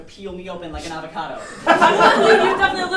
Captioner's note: audience laughing